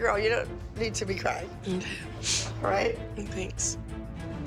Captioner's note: sniffles